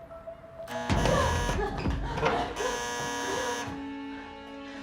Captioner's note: doorbell buzzing